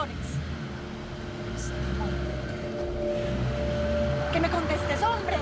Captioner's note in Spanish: Ruido del vehículo